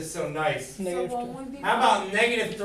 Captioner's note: murmur of voices